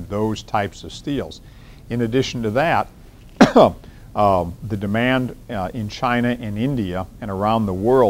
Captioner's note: coughs